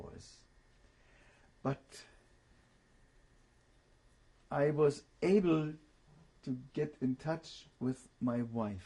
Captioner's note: pauses for 3 seconds